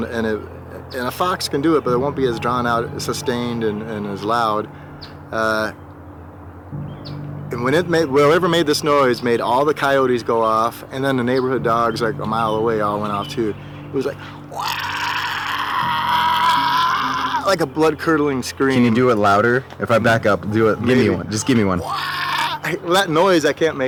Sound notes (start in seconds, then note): 14.4 mimic deep grunting; 21.8 grunting